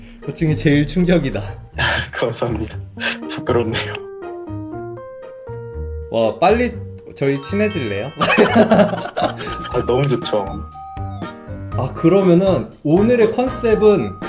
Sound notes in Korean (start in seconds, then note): 2.9 웃음; 8.2 웃음소리